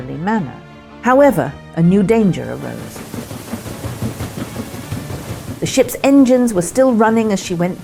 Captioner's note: engine running